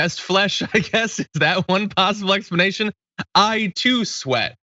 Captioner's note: laugh